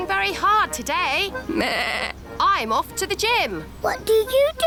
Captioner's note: bleats